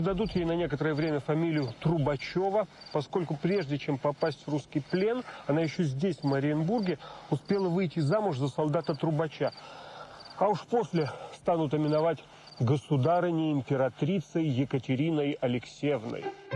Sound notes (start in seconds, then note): 8.4 in Russian 'trubach'